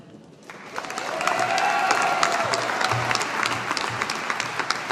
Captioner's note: audience applauding